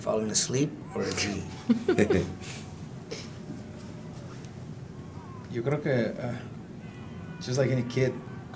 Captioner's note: laugh